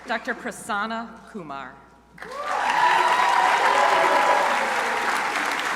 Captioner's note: crowd applauding